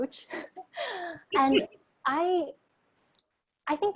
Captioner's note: chuckles